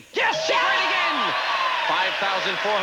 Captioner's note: audience cheering